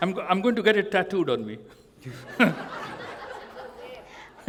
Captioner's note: laughter